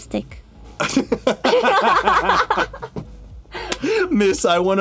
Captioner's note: both laugh